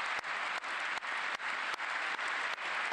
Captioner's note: applause